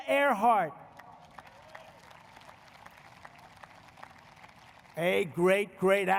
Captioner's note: applause